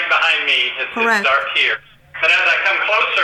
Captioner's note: voiceover